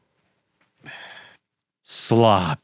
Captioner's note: exhales